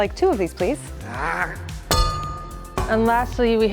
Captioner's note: anvil clanging